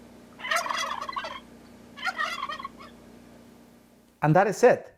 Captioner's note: turkey gobbling